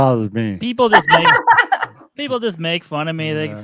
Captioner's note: laughs